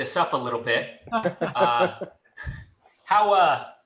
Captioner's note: laughs